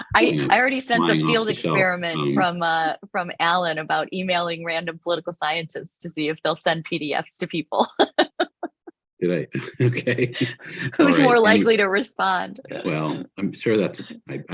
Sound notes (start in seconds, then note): 9.2 chuckles; 9.3 laughs